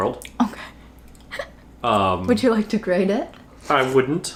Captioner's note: laughs